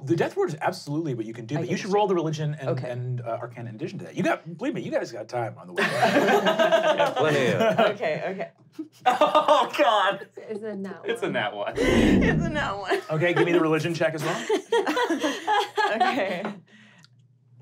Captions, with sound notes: - Oh, the Death Ward's absolutely what you can do, but you should roll the Religion and Arcana in addition to that. You guys got time, by the way. (laughing) - Okay, okay. (laughing) - Oh, god. - Is it a nat one? - It's a nat one. - It's a nat one. - Okay, give me the Religion check as well. (laughing) - Okay.